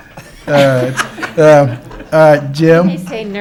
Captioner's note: council laughs